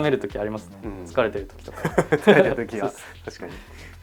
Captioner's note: laughs